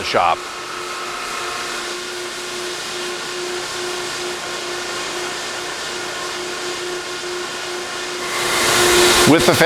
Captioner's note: machine noise